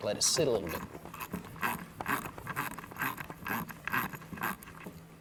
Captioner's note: ratcheting